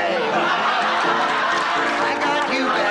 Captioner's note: laughs